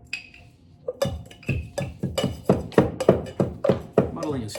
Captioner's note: muddler taps